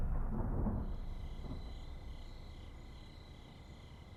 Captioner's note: crickets chirping